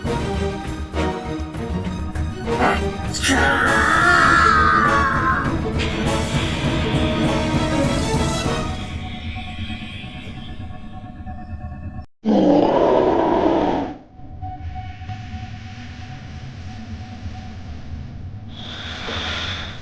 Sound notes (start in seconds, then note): 3.2 growling; 3.2 grunting; 12.2 roaring; 16.2 eerie suspenseful music